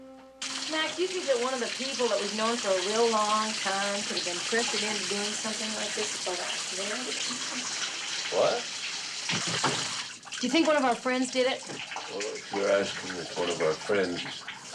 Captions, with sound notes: Mac, do you think that one of the people that we've known for a real long time could have been pressured into doing something like this? [water running] What? Do you think one of our friends did it? Well, if you're asking me if one of our friends is